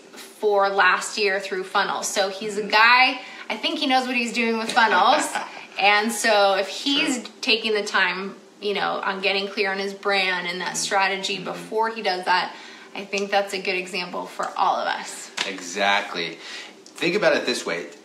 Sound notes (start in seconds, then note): 4.6 man laughs